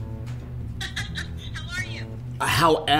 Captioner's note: laughs